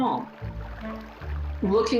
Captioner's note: water gurgling